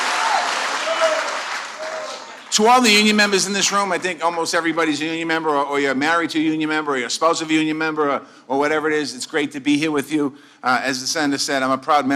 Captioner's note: applause